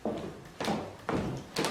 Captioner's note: shoes clicking